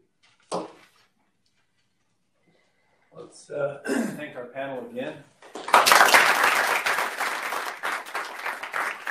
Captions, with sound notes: Let's thank our panel again. [APPLAUSE]